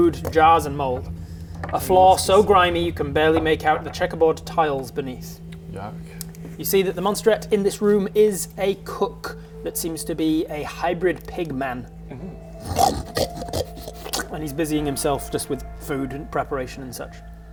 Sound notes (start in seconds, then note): 12.2 grunts and snuffles